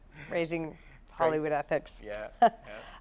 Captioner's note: both laugh